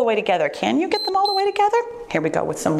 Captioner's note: timer beeps